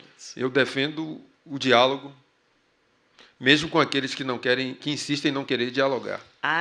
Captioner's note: speaking portuguese